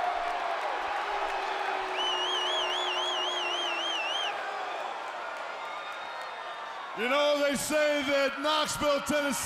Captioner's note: crowd cheering